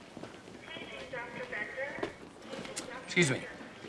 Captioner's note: over P.A